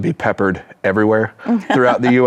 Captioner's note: chuckles